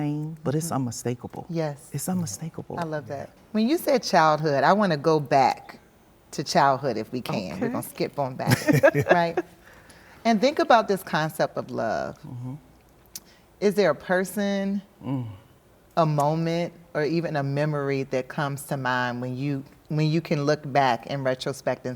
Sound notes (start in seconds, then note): 8.5 group laughter